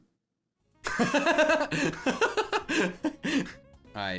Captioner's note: laughing